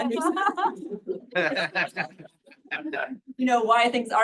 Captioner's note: laughter